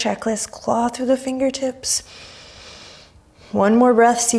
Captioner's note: deep breaths